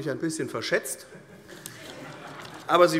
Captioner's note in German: Heiterkeit